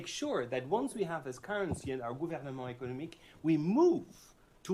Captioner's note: french